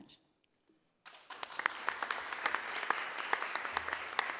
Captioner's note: audience applauding